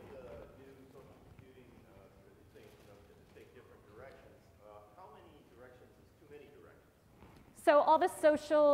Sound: off microphone

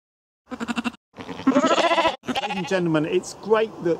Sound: sheep bleating

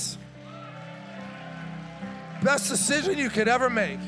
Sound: congregation applauding

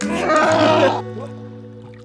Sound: elevator music; grunting

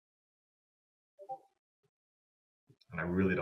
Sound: computer beeps

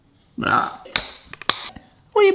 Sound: scissors snipping

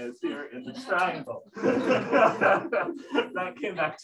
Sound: laughter

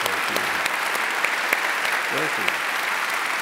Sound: applause

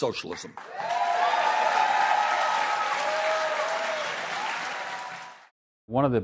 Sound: applause

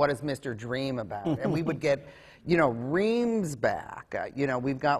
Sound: laughs

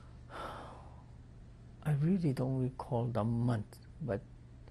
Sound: sighs

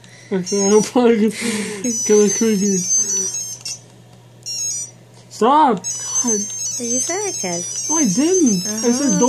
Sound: laughs

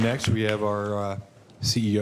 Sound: applause

